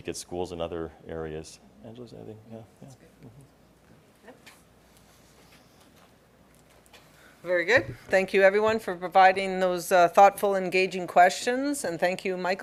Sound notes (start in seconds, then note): none